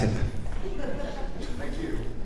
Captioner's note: audience chuckles